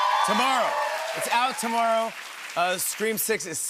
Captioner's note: cheering and applause